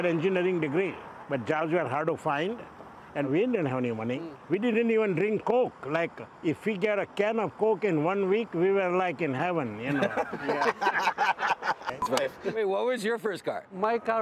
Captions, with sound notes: (they laugh) - Tell me, what was your first car?